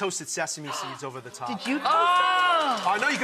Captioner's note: audience clamors